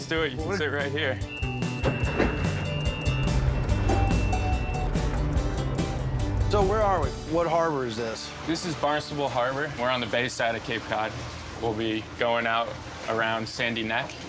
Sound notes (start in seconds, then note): 1.2 boat's motor running